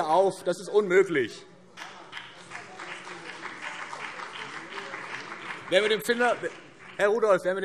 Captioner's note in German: Beifall BÜNDNIS 90/DIE GRÜNEN und CDU